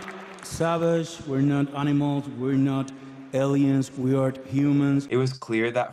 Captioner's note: applause